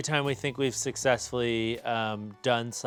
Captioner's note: none